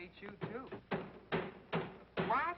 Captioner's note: banging